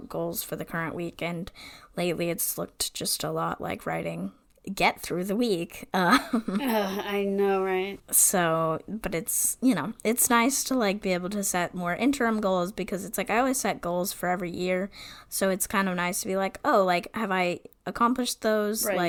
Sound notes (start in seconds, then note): 6.2 laughs; 7.8 sighs